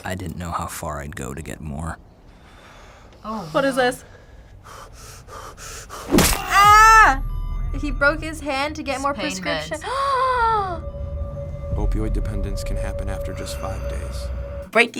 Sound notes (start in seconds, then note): 4.6 man panting; 6.3 screams; 6.4 man screams; 9.4 gasps